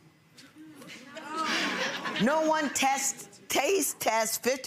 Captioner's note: laughs